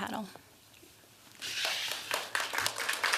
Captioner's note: applause